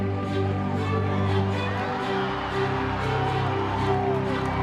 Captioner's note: cheering